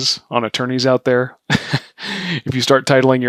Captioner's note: laughs